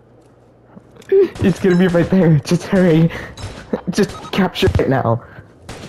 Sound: school boy moanish gasp

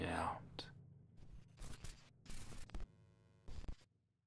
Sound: soft static

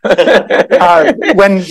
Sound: all laughing

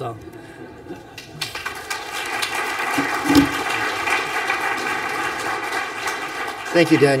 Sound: applause

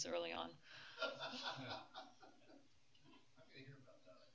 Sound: laughter

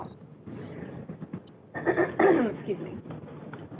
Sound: throat clearing

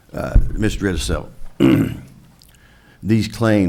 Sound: clears throat

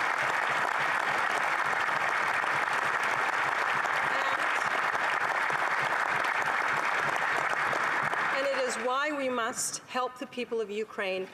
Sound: applause

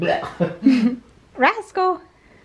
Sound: gagging

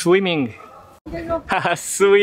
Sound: laugh

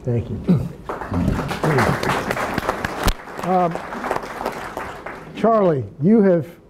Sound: attendees applauding

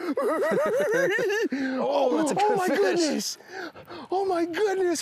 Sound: both laughing

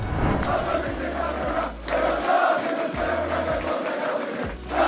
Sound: team chanting and clapping

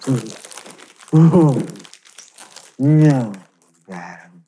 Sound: moaning

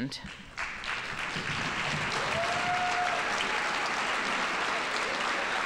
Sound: audience applauding

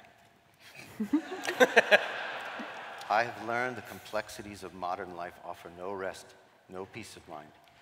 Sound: laughter

